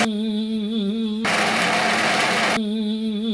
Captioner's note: blender